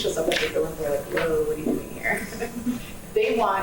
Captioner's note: laughs